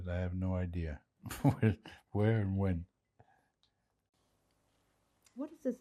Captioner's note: laughing